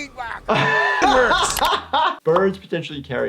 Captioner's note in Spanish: se ríe